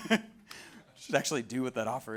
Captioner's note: laughs